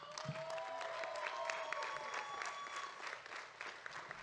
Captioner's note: audience cheering